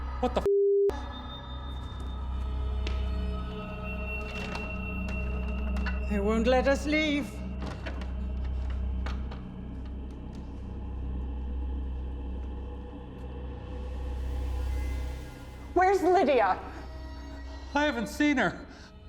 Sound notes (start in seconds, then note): 4.4 rattling door